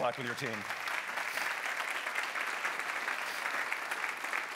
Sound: audience claps

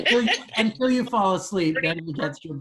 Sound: laughing

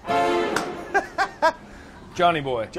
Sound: suspenseful music; laughter

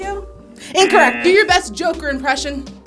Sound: wrong buzzer rings

